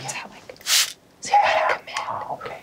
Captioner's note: bottle sprays